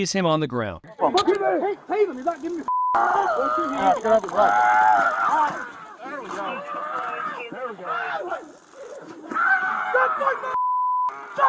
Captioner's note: screaming